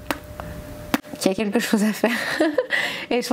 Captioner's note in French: rires